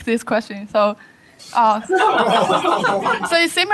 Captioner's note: laughter